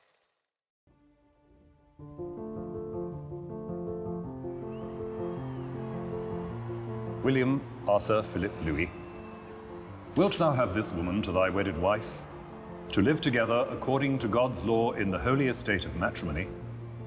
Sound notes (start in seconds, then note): 1.9 crowd cheering; 1.9 romantic music